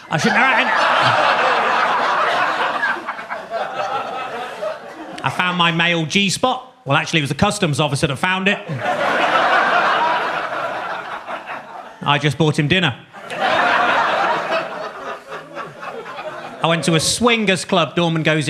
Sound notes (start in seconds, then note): 0.0 audience laughs; 8.6 audience laughs